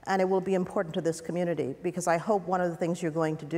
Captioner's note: none